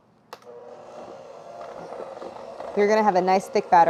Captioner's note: mixer whirring